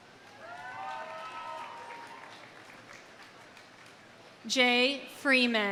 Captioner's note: audience cheering; audience applauding